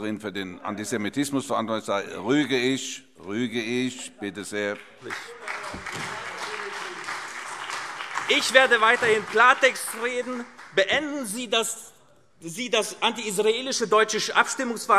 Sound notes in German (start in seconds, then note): 4.8 Beifall CDU, BÜNDNIS 90/DIE GRÜNEN und SPD - Zuruf: Unerhört!